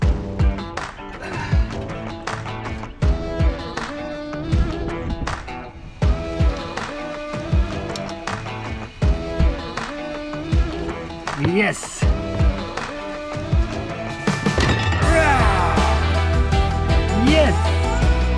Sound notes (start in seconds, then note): 1.2 groans; 3.5 rhythmic rock music; 14.5 exclaims